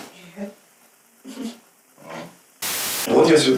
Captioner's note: snickers